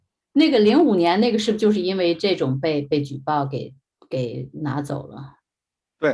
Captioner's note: speaking in foreign language